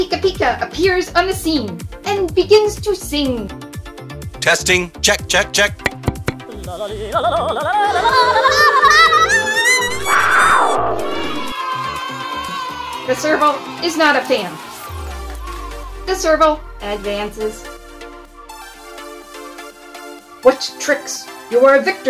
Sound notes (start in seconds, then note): 5.7 tap tap; 7.9 random yodeling noises; 10.0 booing; 10.9 cheering